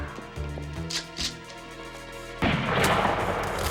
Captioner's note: gun cocking; gun firing